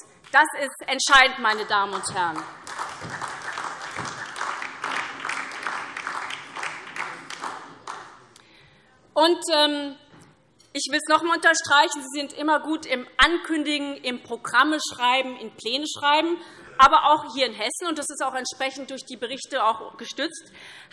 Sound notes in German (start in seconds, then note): 1.5 Beifall SPD und vereinzelt DIE LINKE